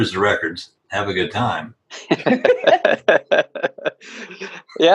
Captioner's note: laughs